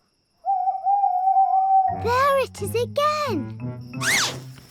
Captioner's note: owl hoots